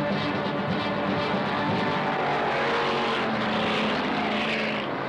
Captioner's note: upbeat music; motors revving